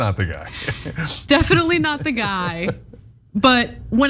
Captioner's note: laugh